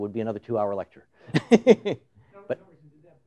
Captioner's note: laughs